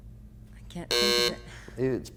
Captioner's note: buzzers sounds